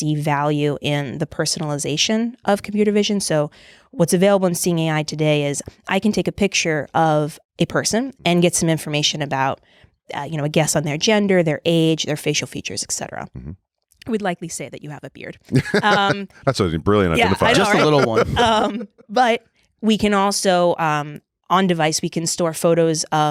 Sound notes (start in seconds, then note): 15.5 laughing